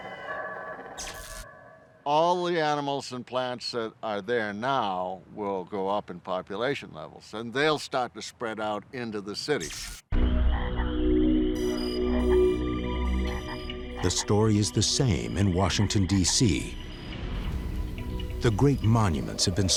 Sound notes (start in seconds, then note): 11.7 frog croaks